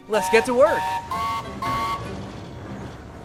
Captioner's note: mighty mac whistles